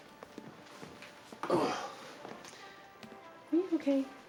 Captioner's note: groans